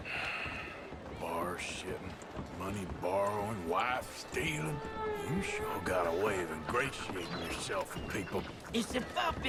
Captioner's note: sighs